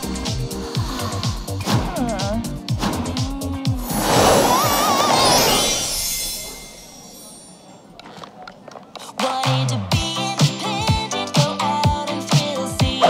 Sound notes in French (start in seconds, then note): 0.0 Soupirs; 4.4 Chelsea crie